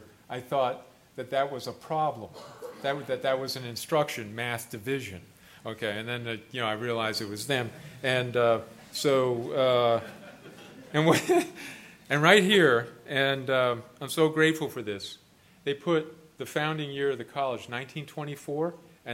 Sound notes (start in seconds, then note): 9.9 laughter; 10.0 laughs